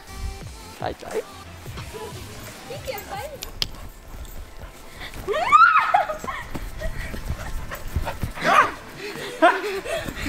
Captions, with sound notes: - You can't find me. (giggles) (squealing)